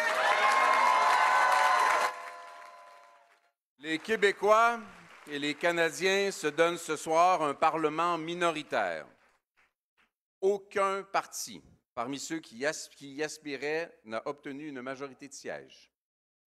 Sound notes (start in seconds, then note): 3.8 applause; 12.1 speaking French